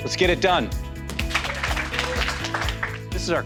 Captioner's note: applause